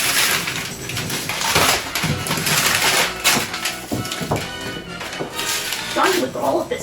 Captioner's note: intense paper ripping